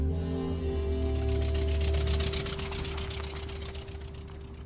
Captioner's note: truck driving